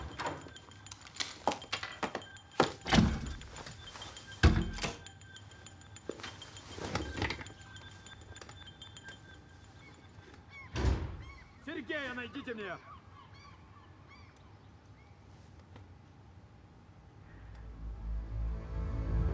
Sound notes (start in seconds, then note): 10.7 door closing